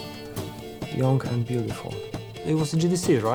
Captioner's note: in English